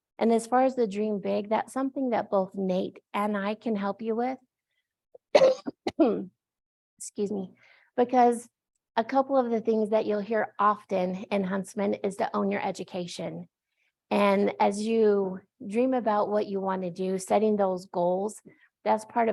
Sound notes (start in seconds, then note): 5.2 coughs